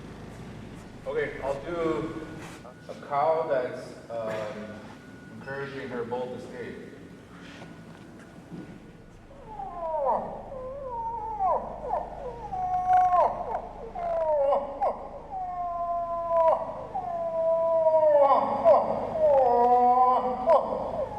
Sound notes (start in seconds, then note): 9.3 moose call